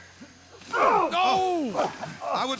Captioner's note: both grunting